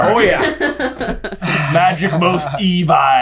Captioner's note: laughing